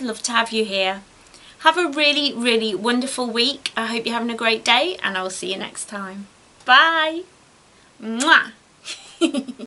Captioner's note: giggles